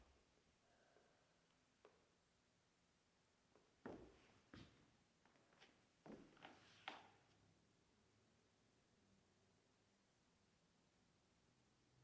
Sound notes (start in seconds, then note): none